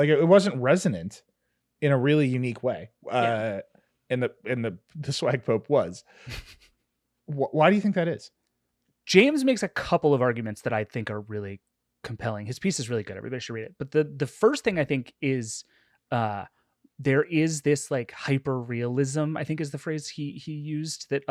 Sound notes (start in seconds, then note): 6.2 snickering